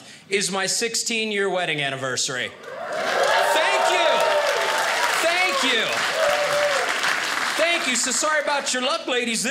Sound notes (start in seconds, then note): 2.5 audience cheers